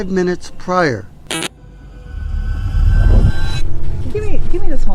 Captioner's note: microphone static; eerie music